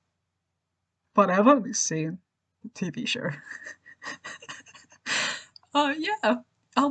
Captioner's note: laughs